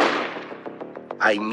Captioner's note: gunshots banging